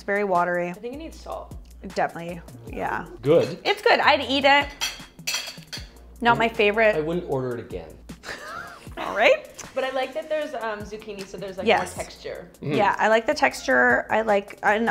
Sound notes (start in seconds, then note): 8.2 laughing